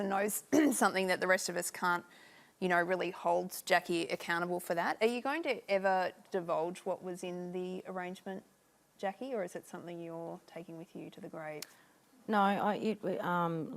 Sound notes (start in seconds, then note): none